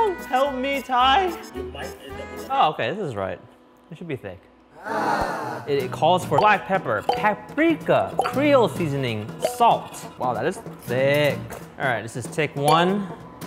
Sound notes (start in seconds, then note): 5.0 voiceover